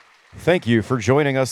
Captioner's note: applause